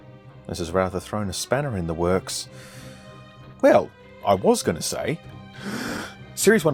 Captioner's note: inhales